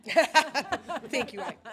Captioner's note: laughing